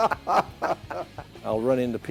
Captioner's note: laughter